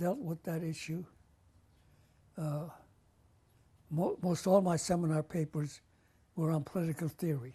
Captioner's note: pauses for 3 seconds